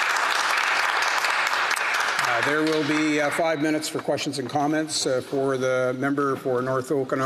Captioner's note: some Applause